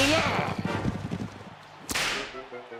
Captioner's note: whipping noise